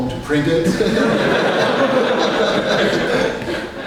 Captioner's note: all laugh